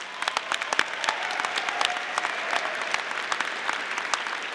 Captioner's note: audience applauding